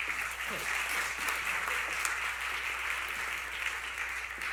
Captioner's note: applause